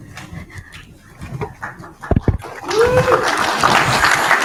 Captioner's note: audience applauding